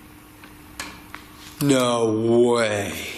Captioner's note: soft banging